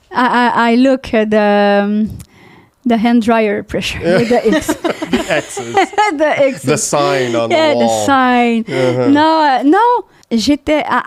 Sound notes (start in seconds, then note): 4.0 laughing; 10.4 in french